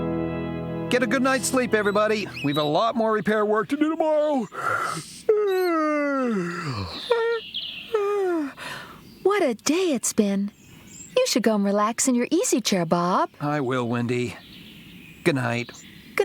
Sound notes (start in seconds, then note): 4.3 yawns